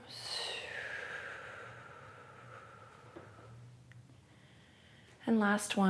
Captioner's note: exhales